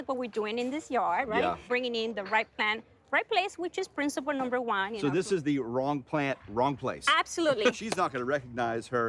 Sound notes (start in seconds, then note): 7.5 laughs